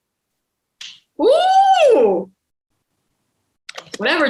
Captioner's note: exclaims